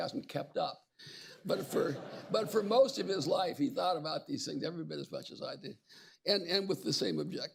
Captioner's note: laughter